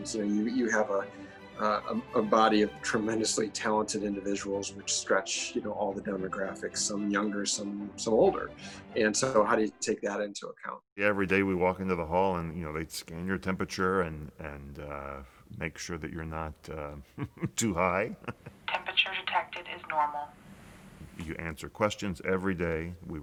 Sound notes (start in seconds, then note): 16.8 chuckles